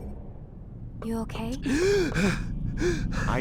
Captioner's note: gasp